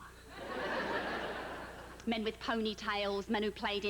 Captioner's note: laughter